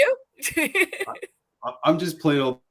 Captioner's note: laughter